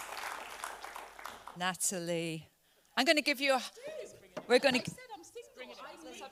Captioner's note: panel members chatter